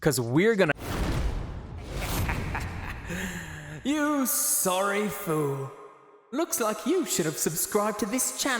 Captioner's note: loud kick and thud